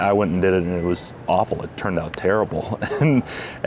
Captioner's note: laughing